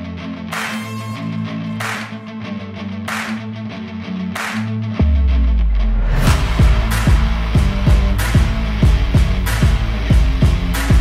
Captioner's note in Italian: Applauso